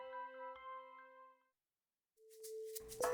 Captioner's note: silence